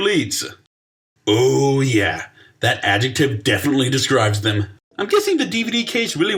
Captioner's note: sarcastically